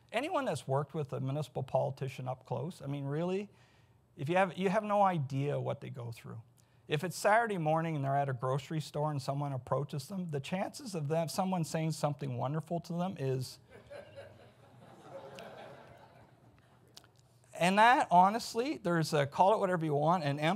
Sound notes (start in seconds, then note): 13.8 audience laughs